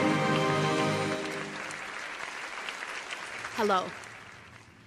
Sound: dramatic orchestral music; audience applauding

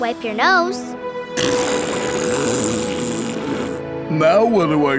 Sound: blowing nose

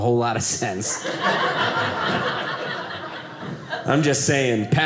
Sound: audience laughing

